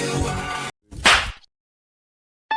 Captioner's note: slap